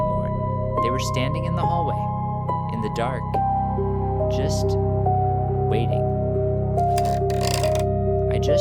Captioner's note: A long pause. A faint creak in the background